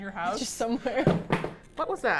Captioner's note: laughing; thud